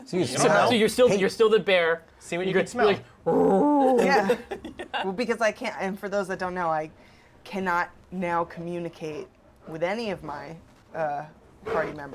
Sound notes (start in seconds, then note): 3.2 bear groans; 3.4 laughing